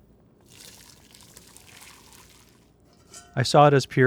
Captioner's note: water splashing